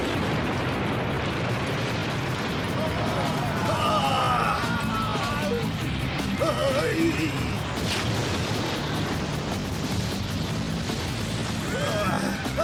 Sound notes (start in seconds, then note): 2.6 crowd shrieking; 8.6 explosion